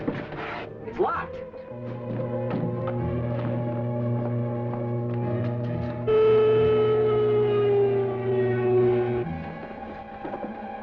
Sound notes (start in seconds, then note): 6.5 engine running